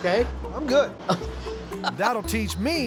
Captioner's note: laughing